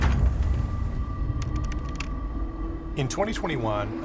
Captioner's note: dramatic music; letters clacking